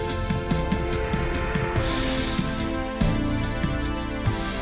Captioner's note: distant roar